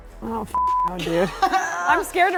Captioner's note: beep